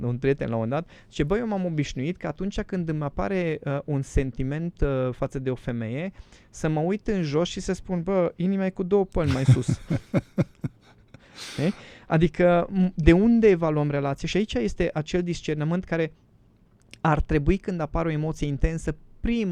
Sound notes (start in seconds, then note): 9.2 laughter